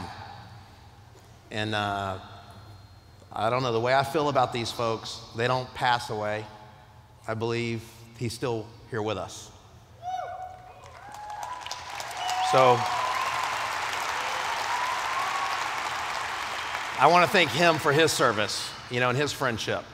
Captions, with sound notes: And I don't know, the way I feel about these folks, they don't pass away. I believe he's still here with us. [Applause] I wanna thank him for his service and his friendship.